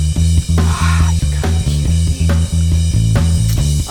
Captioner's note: sigh